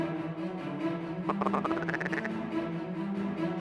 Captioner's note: duck calls